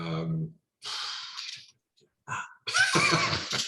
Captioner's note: sigh